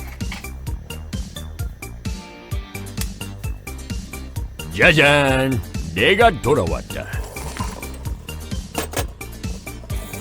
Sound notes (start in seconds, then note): 4.7 the sound of an octopus rising to the surface of the water